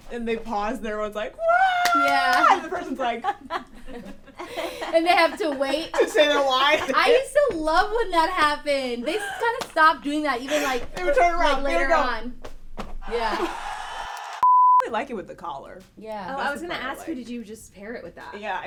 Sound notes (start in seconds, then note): 1.4 scream of adulation; 13.1 audience cheering